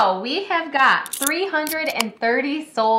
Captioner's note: can opening